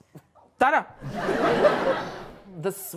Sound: audience laughs

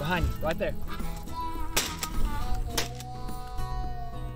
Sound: gun fire

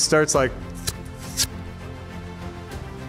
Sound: Sludgey Oob sounds

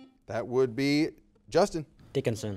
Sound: buzzer beeping

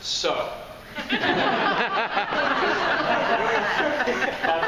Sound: laughing

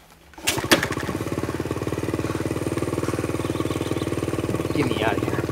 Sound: motorbike engine running

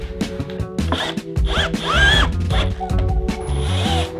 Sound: drill buzzing

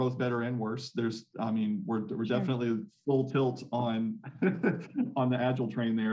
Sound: laughs

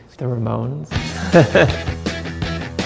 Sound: guitar introduction; laughs

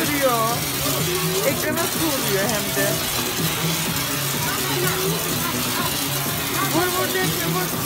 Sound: water sound

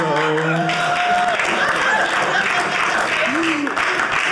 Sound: audience laughing

